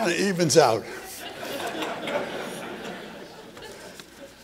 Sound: laughter

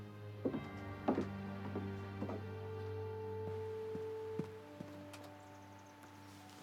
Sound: footsteps; door opening & closing

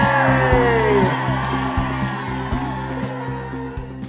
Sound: cheering

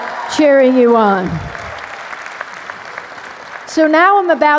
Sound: applause

